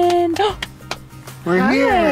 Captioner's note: clapping; gasps